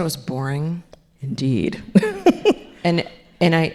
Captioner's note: laughs